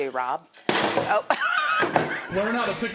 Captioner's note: laughs; board thuds